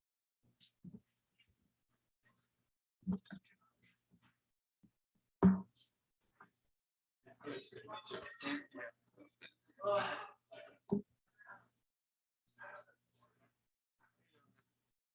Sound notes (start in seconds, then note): 7.4 people chattering indistinctly